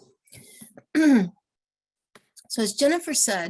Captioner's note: clearing throat